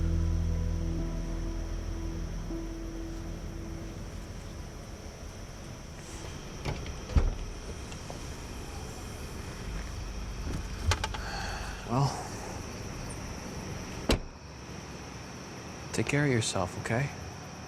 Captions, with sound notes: (soft music continues) (trunk hood clicks) (sighs) Well. (trunk hood thuds) Take care of yourself, okay?